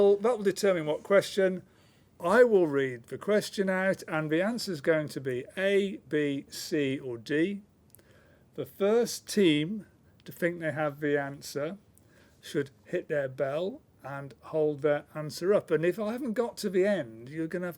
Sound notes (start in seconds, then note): none